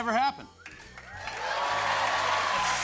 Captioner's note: cheers and applause